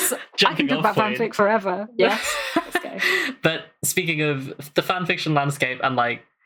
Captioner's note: laughs